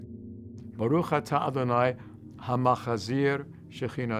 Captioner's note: speaks in Hebrew